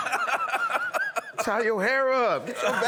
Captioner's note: laughter